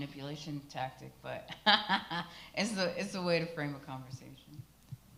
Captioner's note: laughs